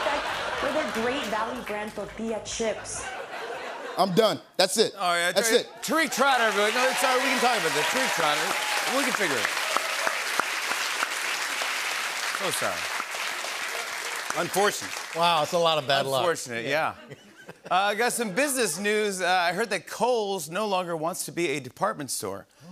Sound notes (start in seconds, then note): 10.2 cheers and applause